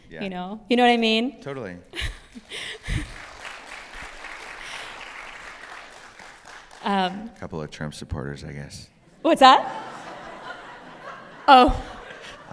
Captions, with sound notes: >> You know? You know what I mean? >> Totally. [ Applause ] A couple of Trump supporters, I guess. >> What's that? [Laughter] Oh.